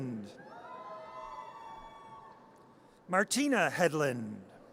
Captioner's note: audience cheers